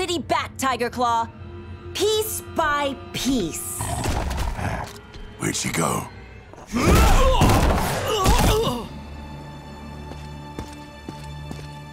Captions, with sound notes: Tiger claw, piece by piece. Where'd she go? [grunting]